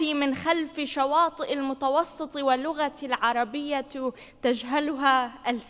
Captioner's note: speaking foreign language